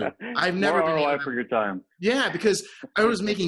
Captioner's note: laughs